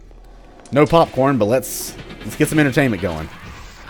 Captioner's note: Bionic Man sound